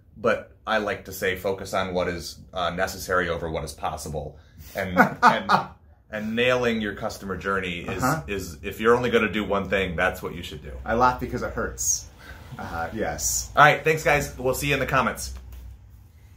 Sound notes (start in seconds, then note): 4.7 laughter